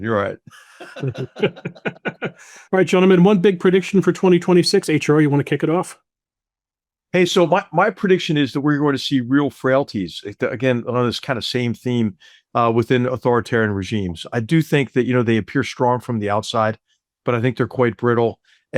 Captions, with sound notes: you're all right. (attendees laughing) - All right gentlemen, one big prediction for 2026? HR, you wanna kick it off? - Hey, so my prediction is that we're going to see real frailties, again, on this kind of same theme within authoritarian regimes. I do think that you know, they appear strong from the outside, but I think they're quite brittle,